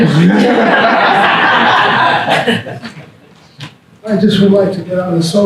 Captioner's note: audience laughter